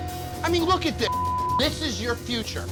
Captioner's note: beep